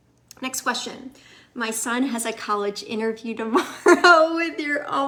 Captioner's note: laughs